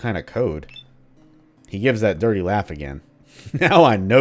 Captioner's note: he gives that dirty laugh again